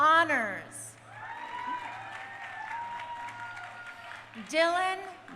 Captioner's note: crowd cheering